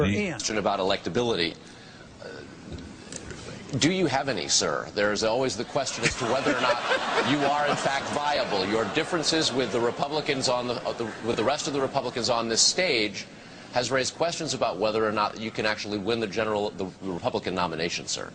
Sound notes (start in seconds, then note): 5.9 laughter